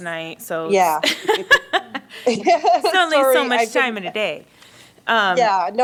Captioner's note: laughter